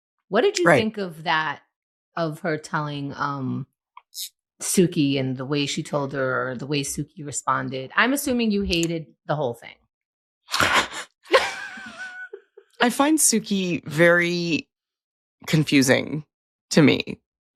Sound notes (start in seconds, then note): 11.8 laughing